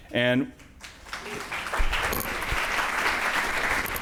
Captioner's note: audience applauds